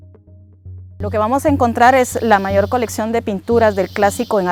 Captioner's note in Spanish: En español